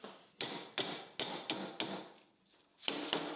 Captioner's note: hammer banging